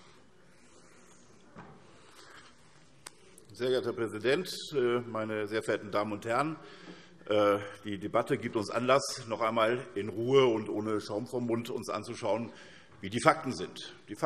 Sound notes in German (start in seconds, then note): none